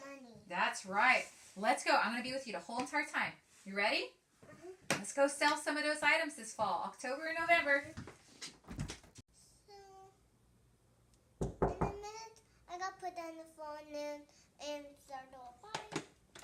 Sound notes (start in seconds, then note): 11.4 knock on door